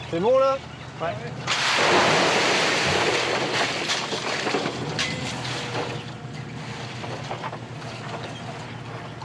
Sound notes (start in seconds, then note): 0.6 speaking in foreign language; 1.5 oysters crashing